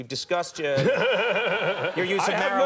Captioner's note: laughing